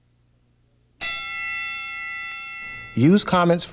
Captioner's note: bell rings